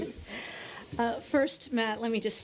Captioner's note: laughter